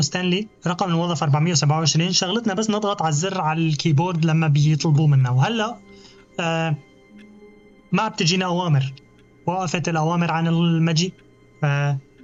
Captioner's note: clock ticking